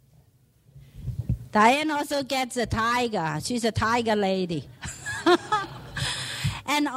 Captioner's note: laughs